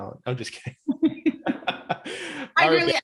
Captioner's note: laughing